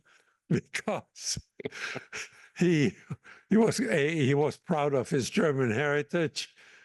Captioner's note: laugh